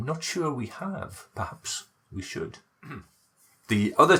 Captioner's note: chuckle